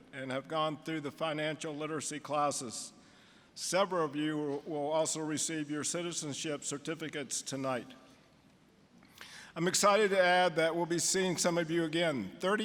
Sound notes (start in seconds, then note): none